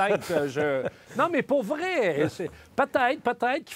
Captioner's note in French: rires